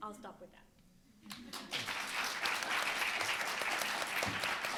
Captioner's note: room applauding